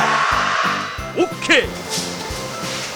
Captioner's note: great shout